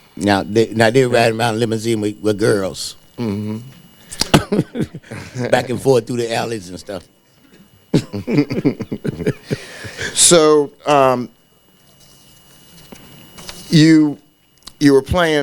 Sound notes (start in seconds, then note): 5.0 laughs; 7.9 laughing